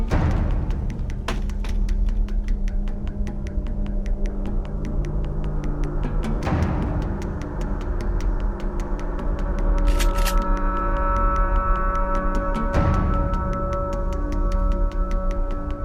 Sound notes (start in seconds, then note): 0.1 suspenseful music; 9.8 rifle clicks; 11.4 ominous music